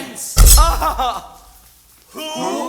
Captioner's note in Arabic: يضربون مرة أخرى. يصرخ يتسحاق من الألم